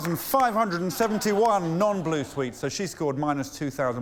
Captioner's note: laughter